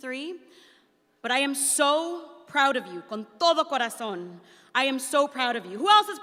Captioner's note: speaks in Spanish